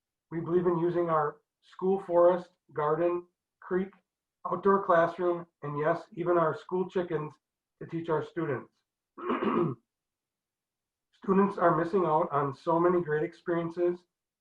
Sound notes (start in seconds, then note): 9.2 clears throat